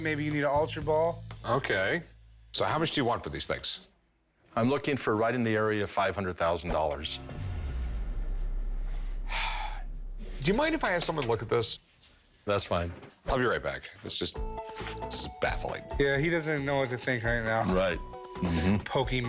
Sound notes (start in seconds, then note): 7.2 dramatic sting; 8.8 exhales